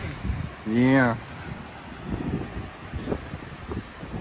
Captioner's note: wind whistling